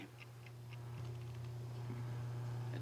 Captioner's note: tape machine whirring